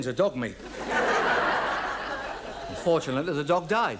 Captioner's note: audience laughs